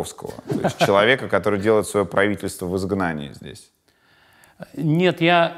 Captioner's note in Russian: Гуриев смеется